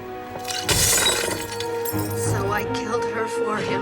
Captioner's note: crash